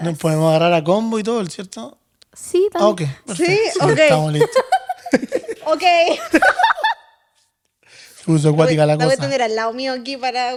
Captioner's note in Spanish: risas